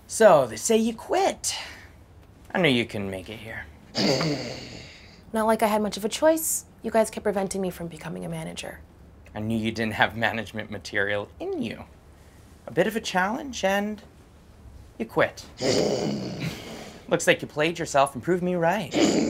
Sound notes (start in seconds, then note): 4.0 Haley sneers; 15.6 Haley sneers; 18.9 Haley sneers